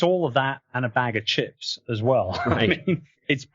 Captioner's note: laughs